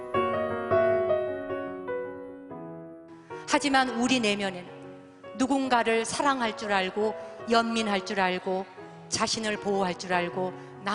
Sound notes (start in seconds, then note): 0.1 gentle music; 4.2 speaking in Korean